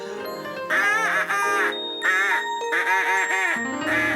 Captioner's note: Julia quacks on duck call